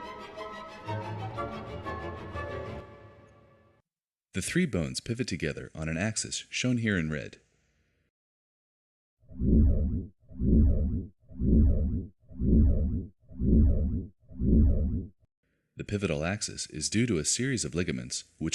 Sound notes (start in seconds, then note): 0.0 orchestra music; 11.3 slow throbbing